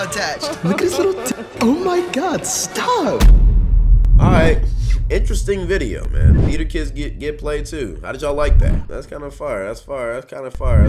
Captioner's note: girls laughing at phone